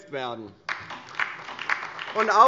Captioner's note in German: Beifall DIE LINKE und vereinzelt SPD